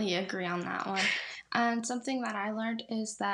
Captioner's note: laughs